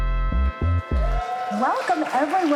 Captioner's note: upbeat music; people cheering